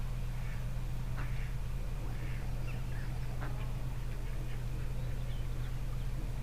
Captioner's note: engine and water noise